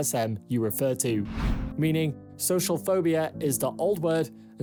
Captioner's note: screen swishes